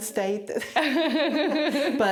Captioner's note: laughing